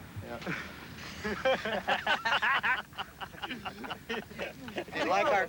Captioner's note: all laughing